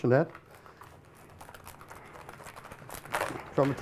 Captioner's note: cracking